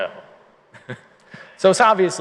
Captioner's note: laughter